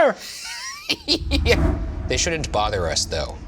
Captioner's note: laughing